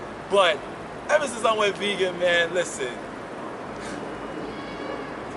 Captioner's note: laughs